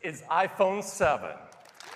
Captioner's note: cheers and applause